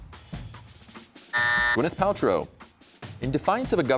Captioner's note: buzzer sounds